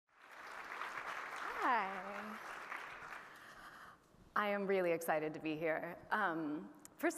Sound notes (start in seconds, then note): 0.1 audience applauding